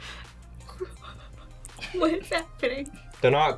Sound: laughs

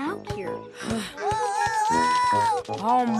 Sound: sighs

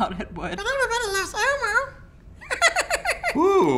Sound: laughs

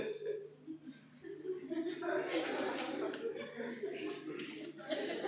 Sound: laughter

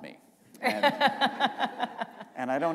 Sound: laughter

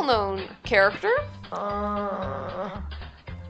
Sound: princess moaning

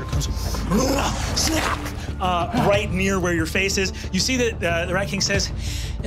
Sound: roaring

